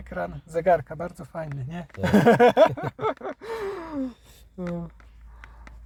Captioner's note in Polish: śmiech